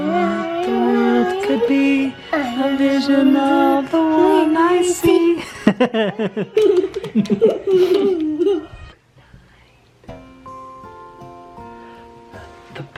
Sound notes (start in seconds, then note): 5.4 laughing; 10.0 gentle music